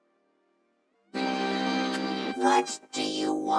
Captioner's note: loud ringtone